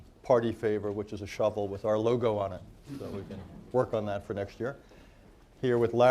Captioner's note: laughter